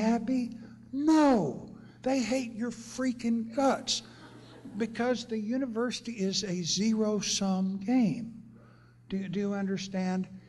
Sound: laughter

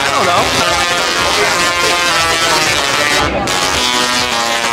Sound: electricity buzzing

